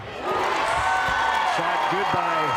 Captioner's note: crowd cheering